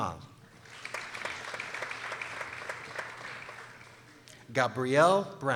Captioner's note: people applauding